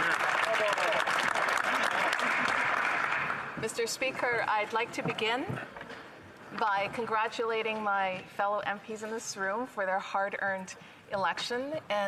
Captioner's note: some Applause